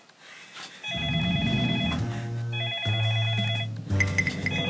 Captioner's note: phone call